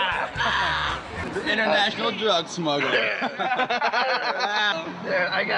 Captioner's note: laugh